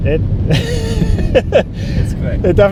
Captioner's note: laughs